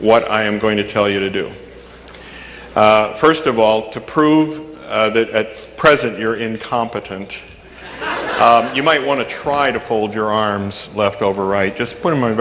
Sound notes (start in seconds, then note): 7.7 audience laughing